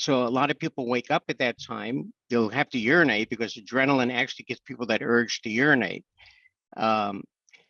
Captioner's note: none